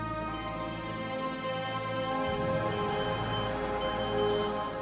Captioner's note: machines beeping